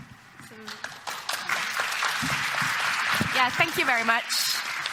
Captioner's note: audience clapping